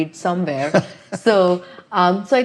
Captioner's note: chuckling